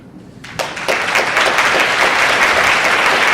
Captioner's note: audience applauding